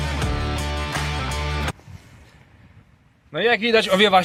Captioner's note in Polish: Aplauz